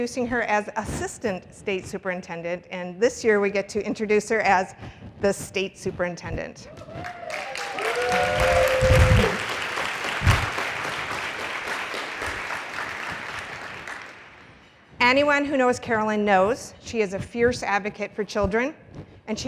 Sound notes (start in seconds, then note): 6.9 applause